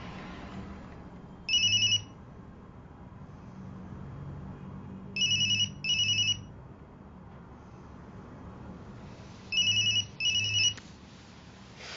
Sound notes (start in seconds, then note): 1.4 cellphone rings; 5.3 ringing; 9.5 ringing and vibrating